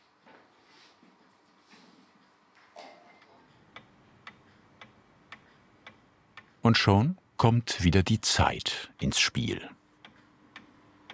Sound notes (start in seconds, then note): 3.4 quiet ticking